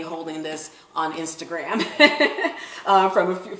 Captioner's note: laughing